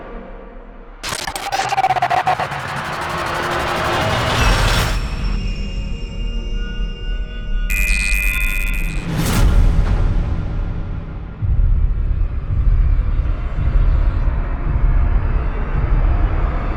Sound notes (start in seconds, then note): none